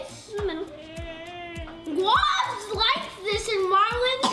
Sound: whines

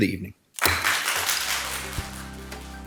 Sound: audience applauding; inspiring music

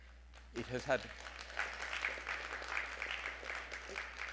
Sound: audience applauding

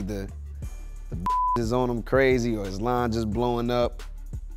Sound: beep

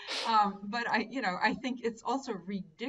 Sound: laughing

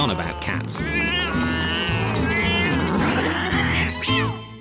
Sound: cats yowling

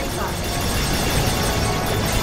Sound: blaster noises

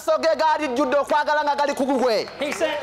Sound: applause

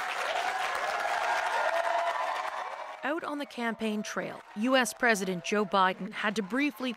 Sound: applause

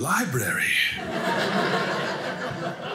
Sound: audience laughing

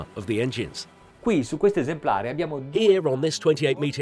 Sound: speaking in Italian

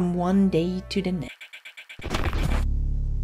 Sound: glitching

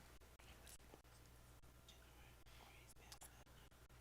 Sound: whispers

